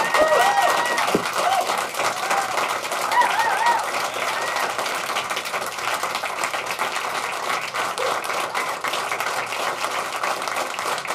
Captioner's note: applause